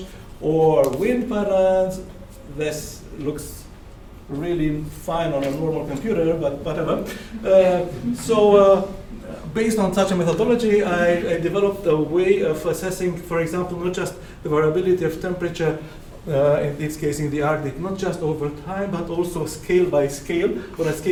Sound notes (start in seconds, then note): 7.4 some audience laughter